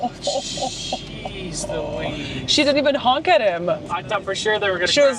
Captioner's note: gasping